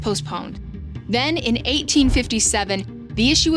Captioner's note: graphic whooshes